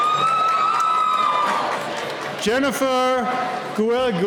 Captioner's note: cheering